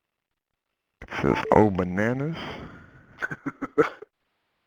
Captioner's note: voiceover; laughter